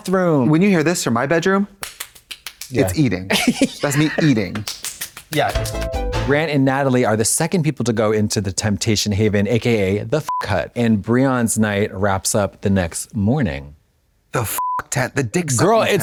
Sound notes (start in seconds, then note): 1.8 hands clapping; 4.6 fist pounding; 10.2 beep; 14.6 beep